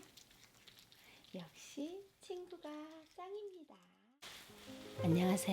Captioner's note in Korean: 점점 작아지는 목소리